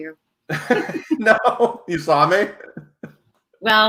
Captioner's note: laughs